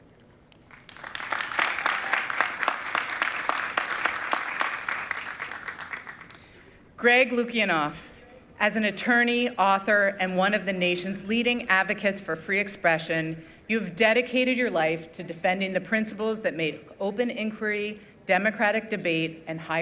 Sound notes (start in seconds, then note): 7.0 applause